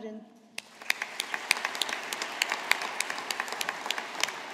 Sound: audience applauding

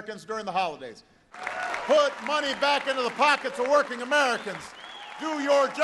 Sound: cheering and applause

